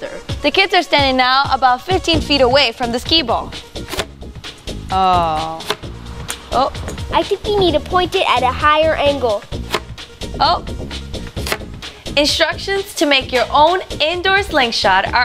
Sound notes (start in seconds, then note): 9.7 pop